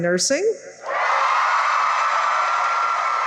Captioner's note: cheering